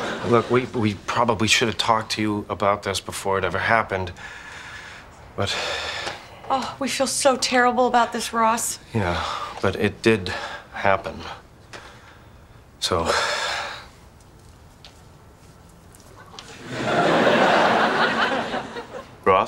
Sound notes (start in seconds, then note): 0.0 audience laughing; 5.4 sighs; 13.0 sighs; 16.5 audience laughing